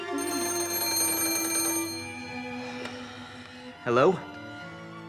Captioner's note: phone rings